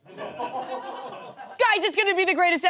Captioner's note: audience laughs